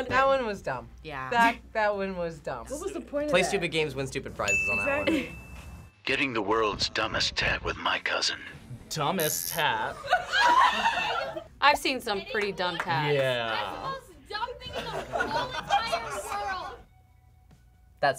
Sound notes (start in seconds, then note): 4.4 bell rings; 9.8 group laughs